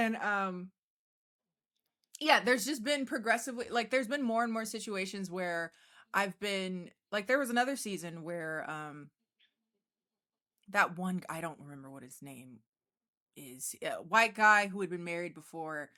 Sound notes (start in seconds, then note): none